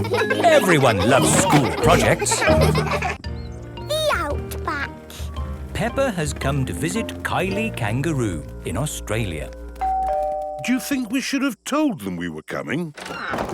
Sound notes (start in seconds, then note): 0.0 children laughing; 9.8 doorbell rings